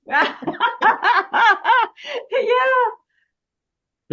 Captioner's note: Rires